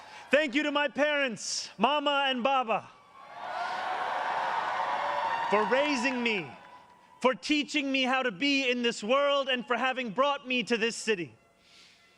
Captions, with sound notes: Thank you to my parents, Mama and Baba... [ Cheers and applause ] ...for raising me, for teaching me how to be in this world, and for having brought me to this city.